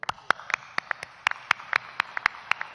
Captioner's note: applause